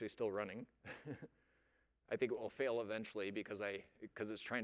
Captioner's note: laughs